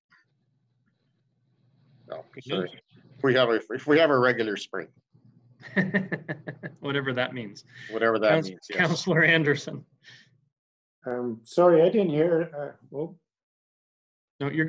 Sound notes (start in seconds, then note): 5.6 laughs